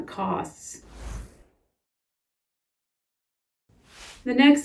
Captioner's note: title whooshing